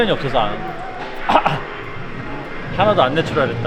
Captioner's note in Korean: 크흠